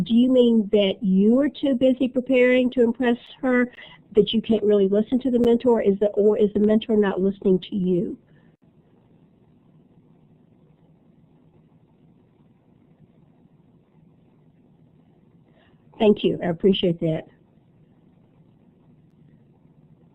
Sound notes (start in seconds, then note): 8.2 silence; 17.2 silence